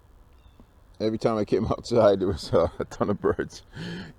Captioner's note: laughing